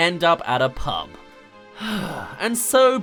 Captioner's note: sigh